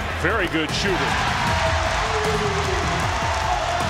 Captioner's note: cheering